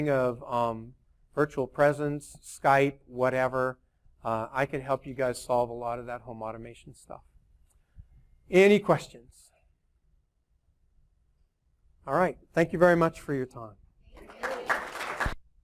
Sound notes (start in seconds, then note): 14.1 applause